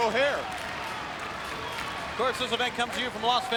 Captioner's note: crowd clapping